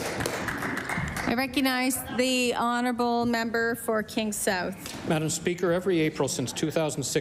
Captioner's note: applause